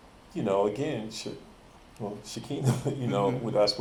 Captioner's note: chuckles